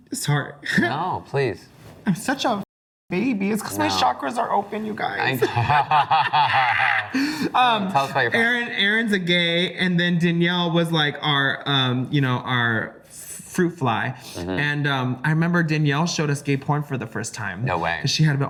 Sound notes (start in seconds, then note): 5.4 laugh